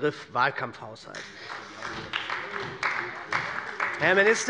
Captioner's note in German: Beifall bei der SPD